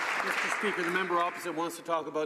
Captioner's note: some Applause